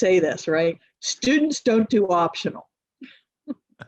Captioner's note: chuckles